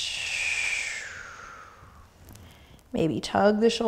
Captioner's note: exhaling breath